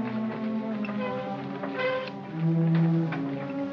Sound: creaking; gloomy music; sounds of shoveling & tapping

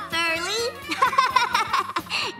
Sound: laughing

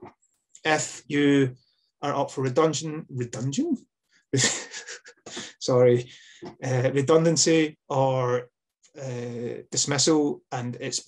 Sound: laughs

